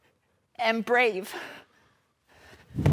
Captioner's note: soft breathing; heavy breathing; thudding